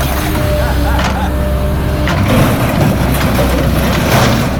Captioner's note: laughing